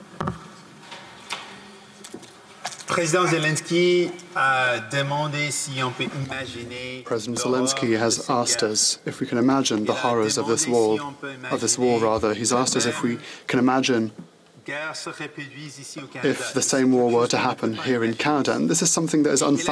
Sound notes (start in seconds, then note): 7.8 speaking French